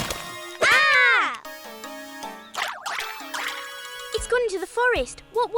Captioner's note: surprised music; Olivia and Isabella scream